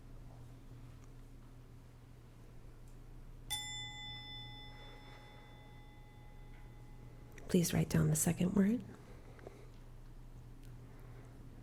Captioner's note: bell chiming